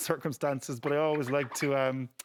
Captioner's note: laughs